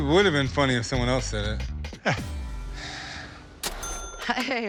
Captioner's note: laughs